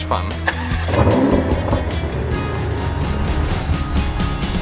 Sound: engine roars

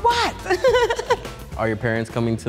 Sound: laughing

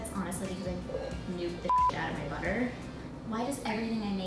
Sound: beep

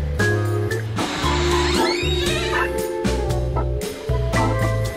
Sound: door creaks open

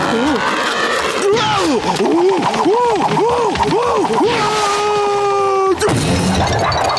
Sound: screaming

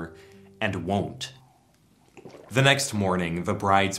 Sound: gulp

